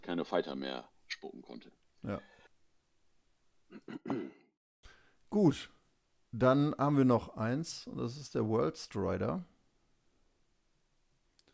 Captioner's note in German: räuspern